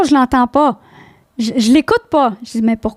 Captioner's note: in french